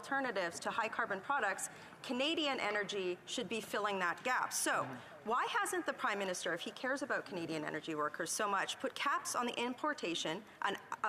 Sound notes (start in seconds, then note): none